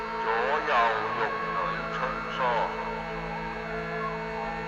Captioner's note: speaking in foreign language